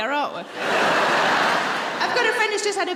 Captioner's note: audience laughing